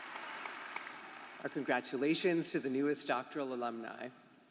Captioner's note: applause